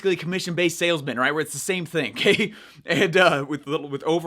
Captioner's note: chuckles